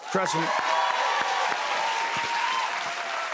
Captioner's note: cheers and applause